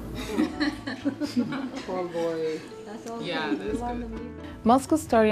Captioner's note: laughing